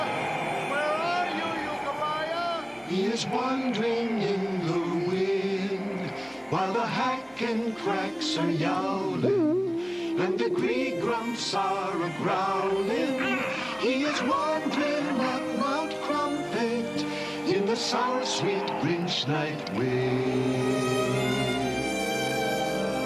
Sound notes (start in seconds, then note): 3.3 singing; 9.0 all yowling; 12.9 all growling